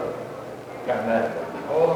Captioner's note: indiscriminate chatter